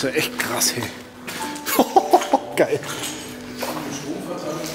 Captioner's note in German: lacht